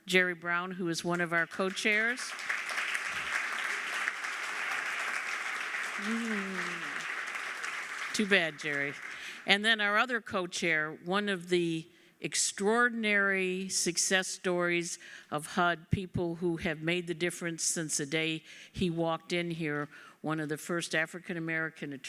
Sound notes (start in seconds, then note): 1.1 applause